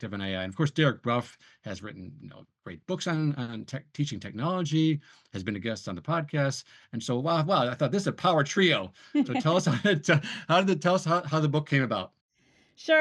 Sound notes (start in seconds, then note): 9.1 both laugh